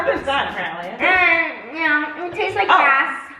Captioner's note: moans